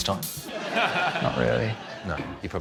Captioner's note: laughter